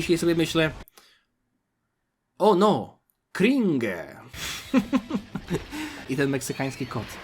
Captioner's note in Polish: śmiech